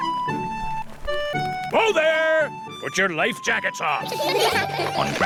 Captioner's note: all giggle